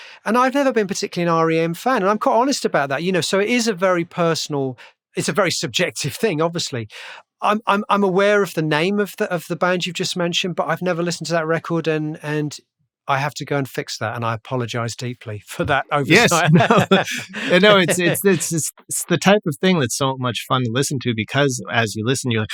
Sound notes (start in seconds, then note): 16.0 laughter